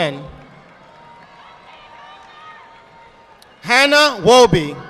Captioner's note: audience applauding